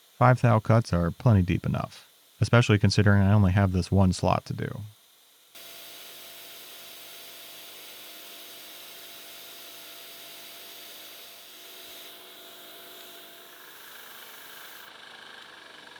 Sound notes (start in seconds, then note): 5.7 machine whirring